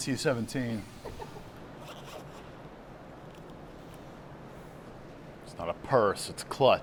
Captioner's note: someone giggles; zipper zipping